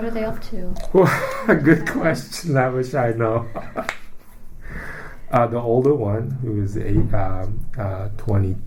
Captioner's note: laughs; laugh